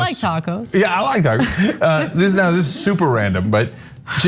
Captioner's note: laugh